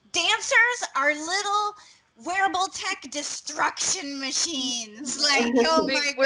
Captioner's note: laughing